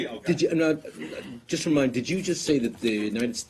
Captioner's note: laughter